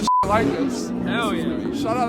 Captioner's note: loud Car Noise